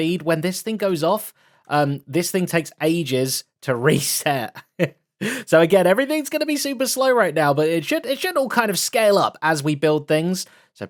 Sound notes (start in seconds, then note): 4.6 laughs